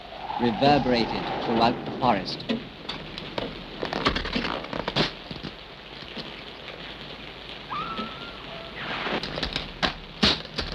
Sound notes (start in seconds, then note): 4.1 wood cracks; 7.7 Madeline screams